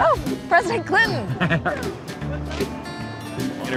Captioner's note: laughs